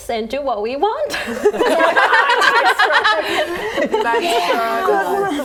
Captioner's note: laughing